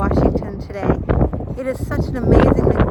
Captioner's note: wind flapping